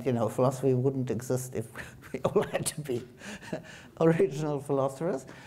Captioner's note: chuckles